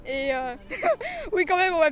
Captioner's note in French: rire